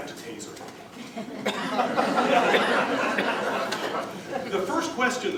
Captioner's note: laughter